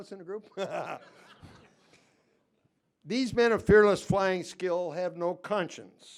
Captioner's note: laughter